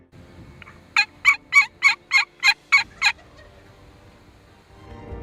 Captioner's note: turkey call